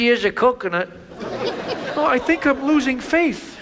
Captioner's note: audience laughs